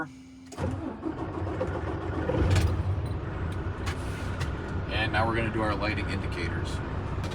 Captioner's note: engine starting; engine running